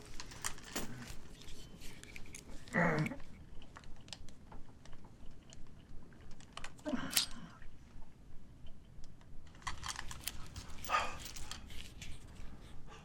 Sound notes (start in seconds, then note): 2.6 grunting; 7.2 clicking